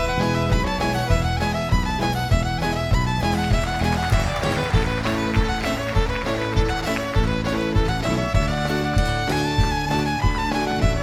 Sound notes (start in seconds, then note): 3.2 applause